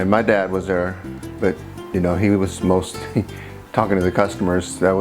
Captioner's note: laughs